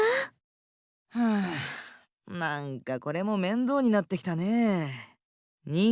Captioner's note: sigh